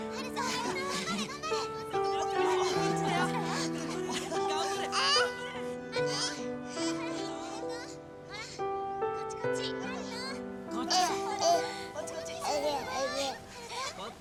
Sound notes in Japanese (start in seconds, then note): 3.0 泣き声; 7.0 泣き声